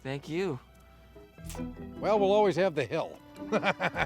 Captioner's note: laughs